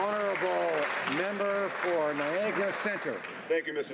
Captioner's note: some Applause